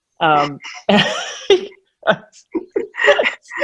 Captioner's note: all laughing